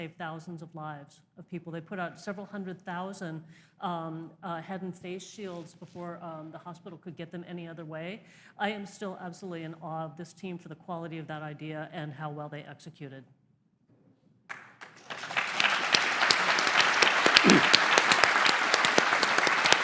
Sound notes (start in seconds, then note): 14.5 applause